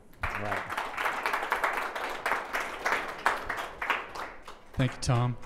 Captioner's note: audience clapping